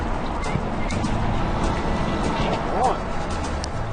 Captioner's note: whistles